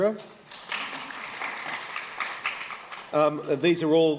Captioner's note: applause